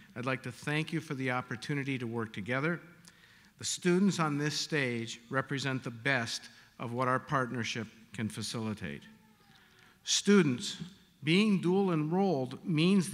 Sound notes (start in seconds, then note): none